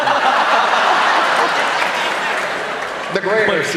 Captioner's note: laughter